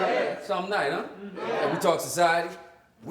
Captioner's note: crowd